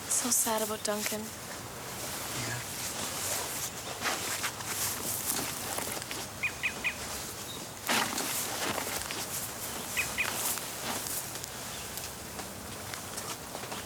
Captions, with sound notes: - So sad about Duncan. - Yeah. (bird chirping)